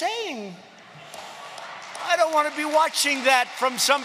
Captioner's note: laughter and applause